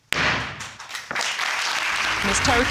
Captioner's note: gavel bangs